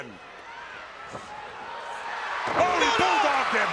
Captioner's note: crowd cheering